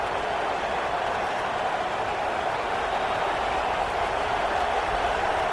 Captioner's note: crowd cheering